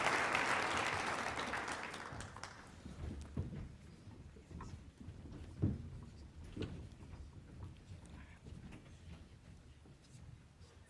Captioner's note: applause